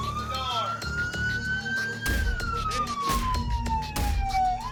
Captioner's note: striking door; siren blaring